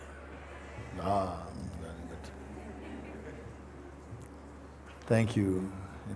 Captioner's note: Stimmen im Publikum